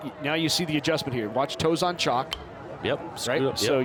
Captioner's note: bat dinks